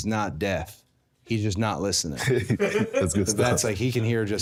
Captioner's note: both laugh